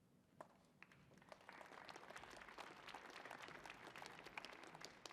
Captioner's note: audience applauding